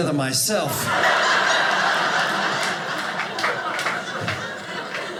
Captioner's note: audience laughing